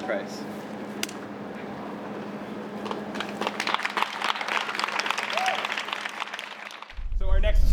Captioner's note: applause